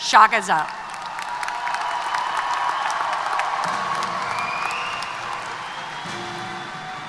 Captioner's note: applause & Cheers